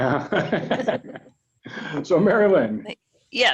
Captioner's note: both laughing